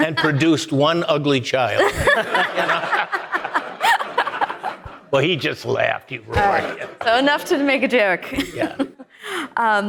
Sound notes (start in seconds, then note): 1.8 audience laughing